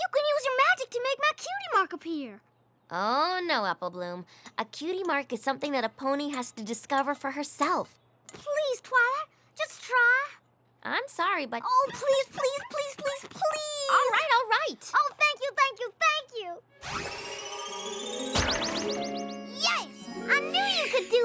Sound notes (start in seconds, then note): 16.8 tinkling